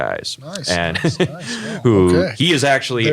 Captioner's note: laugh